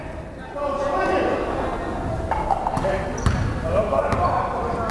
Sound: crowd chattering

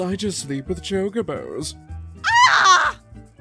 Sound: Kana screams

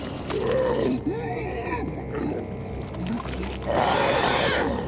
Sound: roaring

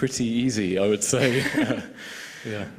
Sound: laughter

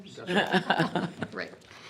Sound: group chuckles

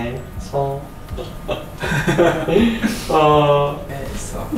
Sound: just laughs

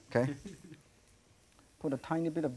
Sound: audience giggling

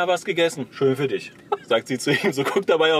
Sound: laughs

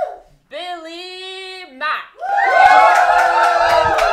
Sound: applause

